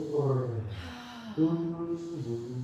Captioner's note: humming